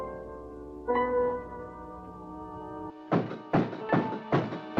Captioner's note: knocks